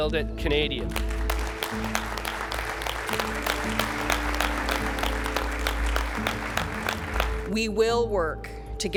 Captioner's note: applause